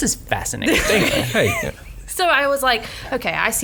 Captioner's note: laughs